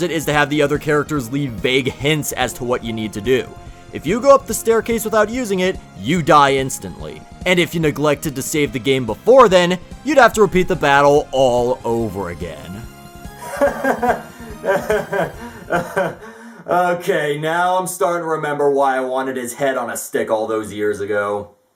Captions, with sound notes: ...is to have the other characters leave vague hints as to what you need to do. If you go up the staircase without using it, you die instantly. And if you neglected to save the game before then... ...you'd have to repeat the battle all over again. (laughing frustratedly) OK, now I'm starting to remember why I wanted his head on a stick all those years ago!